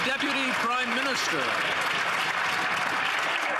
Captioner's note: some Applause